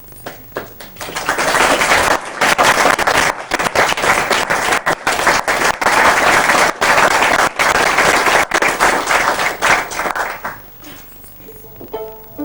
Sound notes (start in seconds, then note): 0.1 clapping